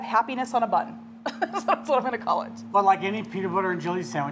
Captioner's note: laughing